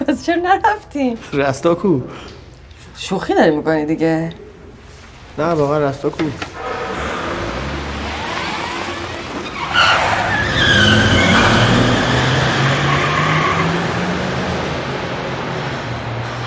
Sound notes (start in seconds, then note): 9.9 tyre screeching